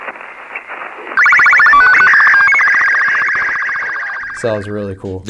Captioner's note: beeping